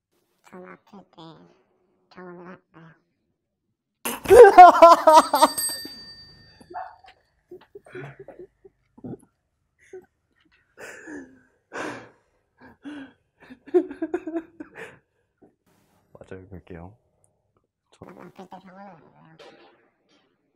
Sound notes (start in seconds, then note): 4.1 can't resist laughing